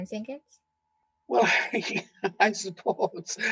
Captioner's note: laughing